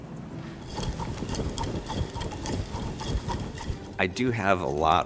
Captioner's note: yo-yos swing and swivel